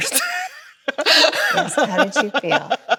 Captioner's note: Chloe laughs